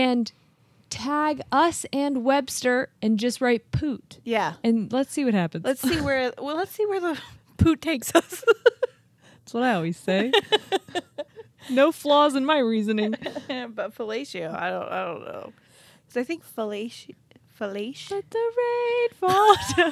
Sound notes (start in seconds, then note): 10.3 chuckling; 13.1 chuckles